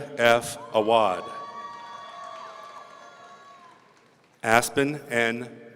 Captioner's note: audience cheering